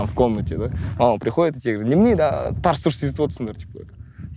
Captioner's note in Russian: на казахском